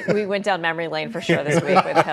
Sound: laughter

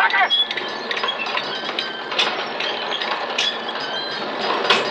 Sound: metal creaking

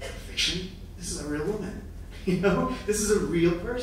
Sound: laughing

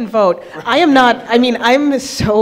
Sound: attendees laughing

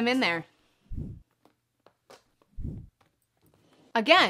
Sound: whooshing

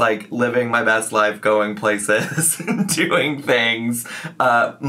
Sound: chuckles

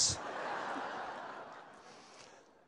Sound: laughter

